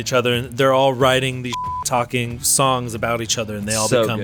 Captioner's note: beep